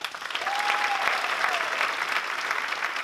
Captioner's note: applause